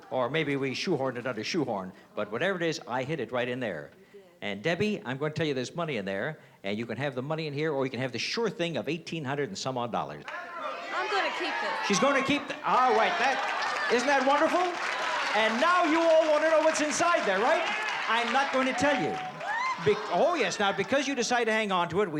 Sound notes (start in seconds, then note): 9.9 crowd shouting; 14.6 cheering